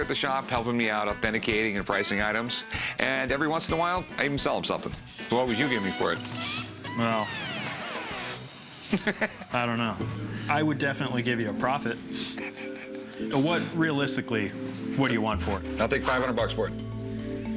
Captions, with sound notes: authenticating and pricing items. And every once in a while, I even sell him something. So what would you give me for it? Well, I don't know. I would definitely give you a profit. [chuckles] What... realistically, what do you want for it? I'll take 500 bucks for it.